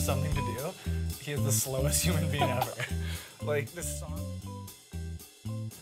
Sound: laughter

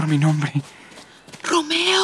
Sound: hastened footsteps

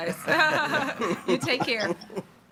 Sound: laughing

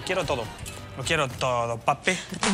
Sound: canturrea

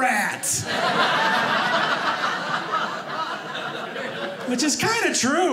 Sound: audience laughing

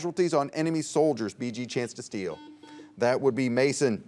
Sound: buzzer beeps

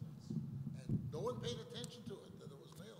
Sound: voiceover

